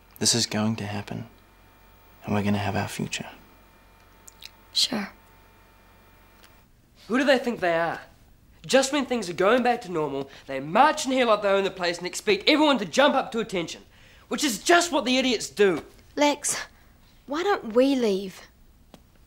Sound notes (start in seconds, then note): none